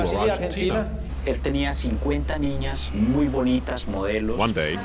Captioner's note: Spanish spoken audio